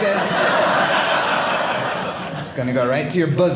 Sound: audience laughing

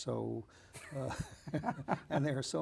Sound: laughing

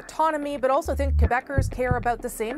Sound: speaking French

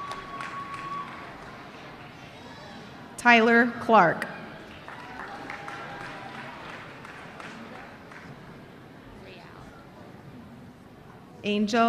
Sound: applause

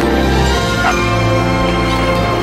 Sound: dog barks

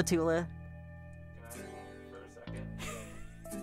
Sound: laughing

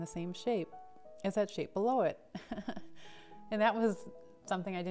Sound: chuckles

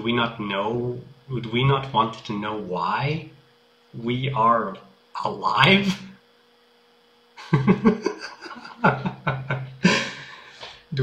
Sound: laughs

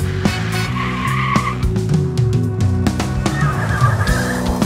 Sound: tires screeching

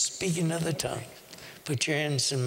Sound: whispering

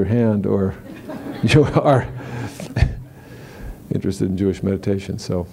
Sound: laughter

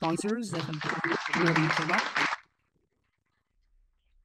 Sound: audience applauding

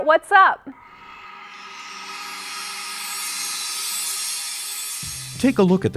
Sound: sound Effects

